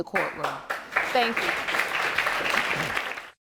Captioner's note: audience applauding